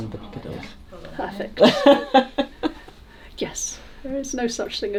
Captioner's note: laughing